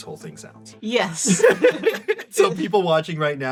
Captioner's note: laughs